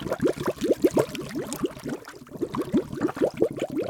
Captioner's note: bubbling